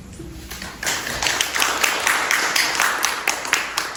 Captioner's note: applause